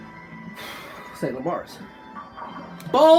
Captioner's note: sharp exhale